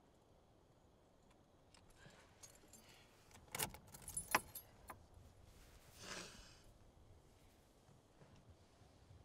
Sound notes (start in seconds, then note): 3.5 keys rattling; 5.9 Caitlyn sniffling